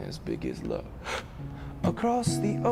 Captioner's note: gasping